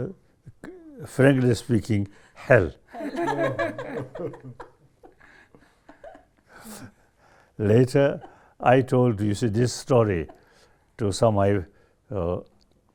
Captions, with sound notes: frankly speaking, hell. [all laugh] Later, I told this story to some